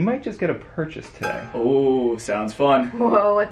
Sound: exclamatory chiming

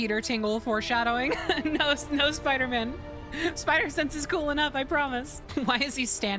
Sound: laughing

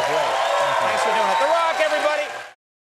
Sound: audience cheering

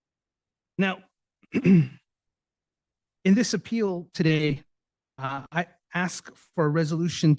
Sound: clears throat

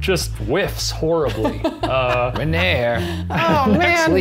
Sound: laughing

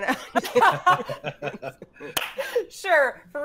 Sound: group laughs

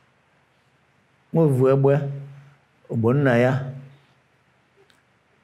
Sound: speaks in Igbo

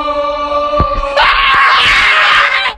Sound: ear piercing demon screech

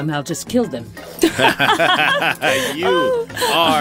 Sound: laughs

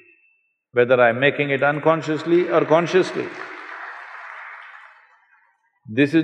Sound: applause

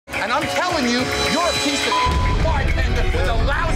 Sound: beep

